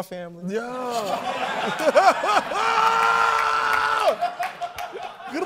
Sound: laughter

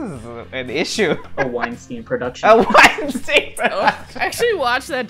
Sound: laughs

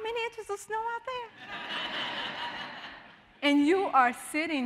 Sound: audience laughing

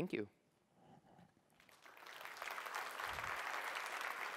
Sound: applause

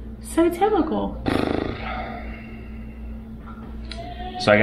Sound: blows raspberry; groans

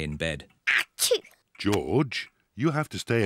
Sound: sneezes

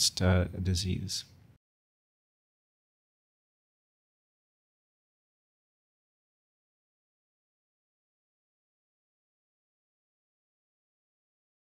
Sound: silence

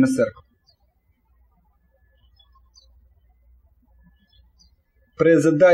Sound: birds chirping

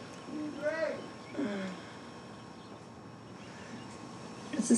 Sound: groans softly

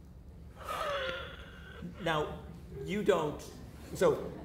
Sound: audience laughter

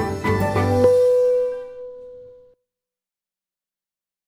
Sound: sonic beep

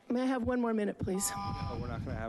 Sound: buzzing

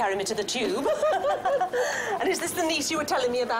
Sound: women laughing

